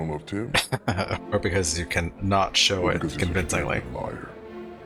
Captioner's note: chuckling